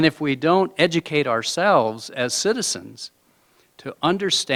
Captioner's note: none